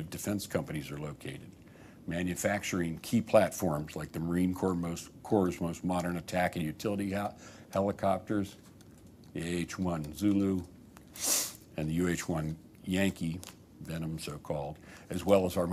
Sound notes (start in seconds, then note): 11.1 sniffs